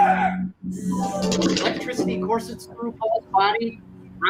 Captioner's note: taser crackles